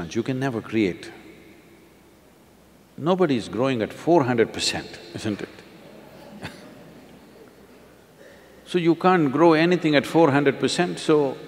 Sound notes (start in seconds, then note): 6.0 few Laugh